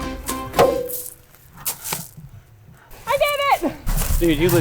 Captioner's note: clanging slap